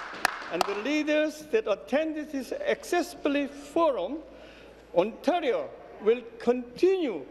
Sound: applause

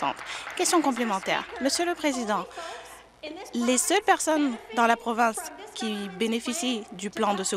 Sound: applause

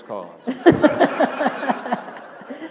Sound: laughter

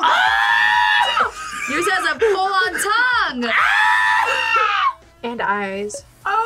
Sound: screams; both scream

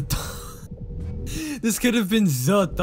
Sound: wheeze

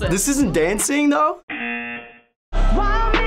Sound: buzzer

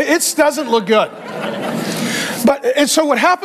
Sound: congregation laughing

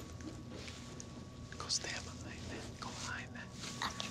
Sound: whispers

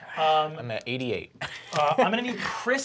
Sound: laughs

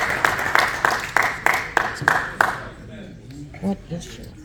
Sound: applause

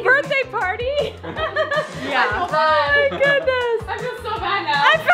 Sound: laughs

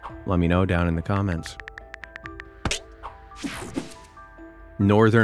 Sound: cell phone keyboard clicking

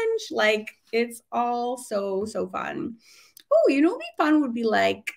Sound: none

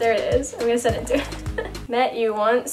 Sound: laughs

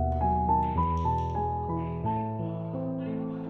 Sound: A pool ball is struck

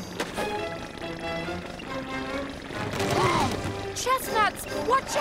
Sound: tires screeching; all screaming

